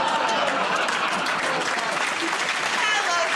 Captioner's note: laughter; applause